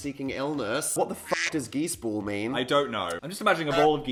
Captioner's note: squawk